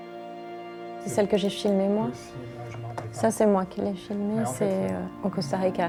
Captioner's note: speaking French